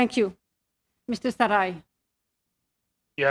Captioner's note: speaking French